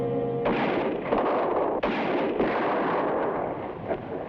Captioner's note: suspenseful music; gunshots blast